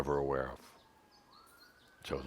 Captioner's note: sirens can be heard in the background